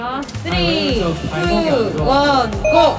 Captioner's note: heart beating